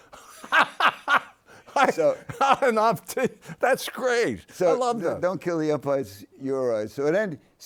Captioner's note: laughs